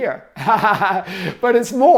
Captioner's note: laughing